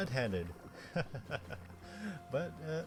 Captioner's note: laugh